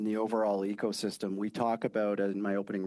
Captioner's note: speaking French